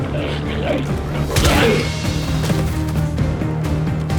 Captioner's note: intense music continues; glowzies growling